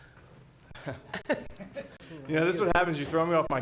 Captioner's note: chuckling